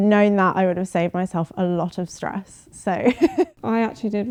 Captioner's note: laughing